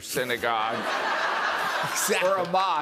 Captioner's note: laughter